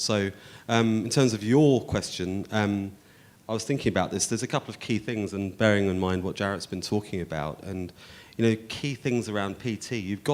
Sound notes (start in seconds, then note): none